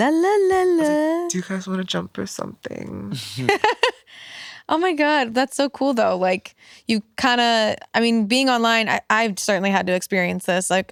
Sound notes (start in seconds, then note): 3.2 laugh